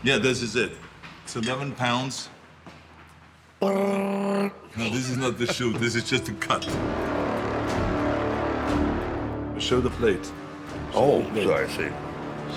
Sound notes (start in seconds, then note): 3.9 Sylvester making shooting noises; 7.5 intense music